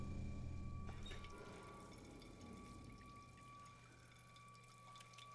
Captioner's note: water trickles